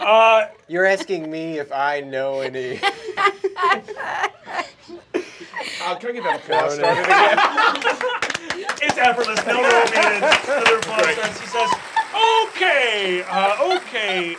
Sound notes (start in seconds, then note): 0.0 chuckling; 4.0 laughter; 7.0 laughter